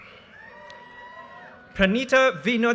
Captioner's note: audience cheers and applause